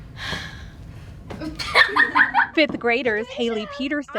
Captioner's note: exhales; laughter